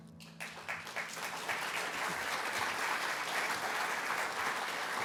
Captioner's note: applause